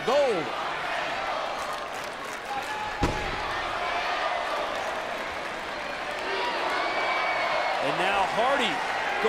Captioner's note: applause